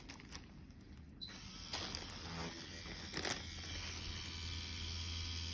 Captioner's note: machine whirring